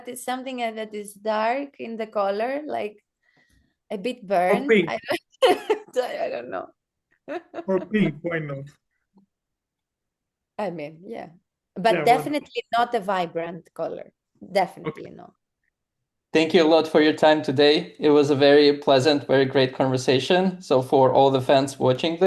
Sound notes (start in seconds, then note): 7.3 laughs